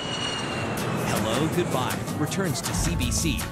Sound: plane engine roars

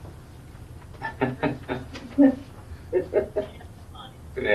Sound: laughs

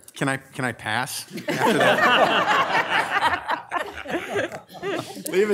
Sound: audience laughing

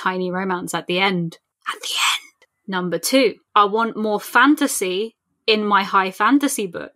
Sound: whispered

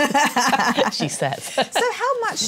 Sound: laughs

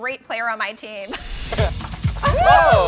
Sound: laughing

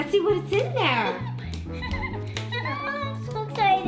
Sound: laughing

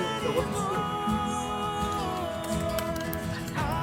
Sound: applause

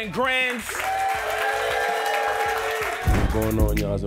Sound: crowd cheers

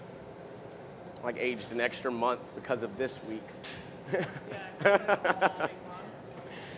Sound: laughter

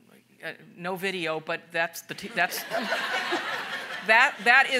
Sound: audience laughing

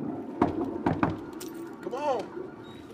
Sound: knocks; toilet flushes

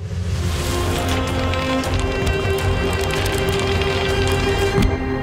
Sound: pages flipping; energetic music

